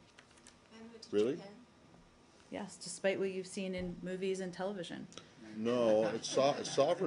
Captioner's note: laughter